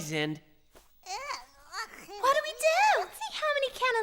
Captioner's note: Tessa gagging